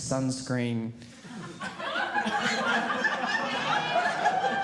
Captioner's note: audience laughing